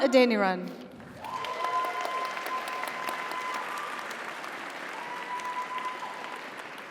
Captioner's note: audience applauds; audience cheers